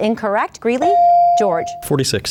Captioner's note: bell dings